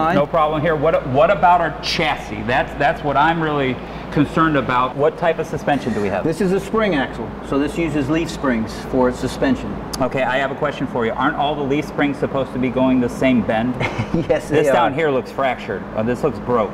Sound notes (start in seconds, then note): 13.7 chuckles